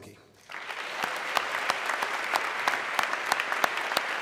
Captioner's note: audience clapping